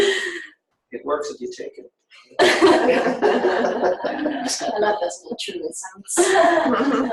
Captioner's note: laughter